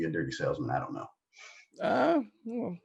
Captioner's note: chuckles